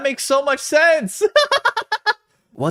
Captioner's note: laugh